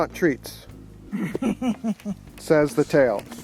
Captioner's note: laughter